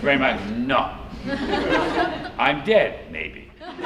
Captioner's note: laughter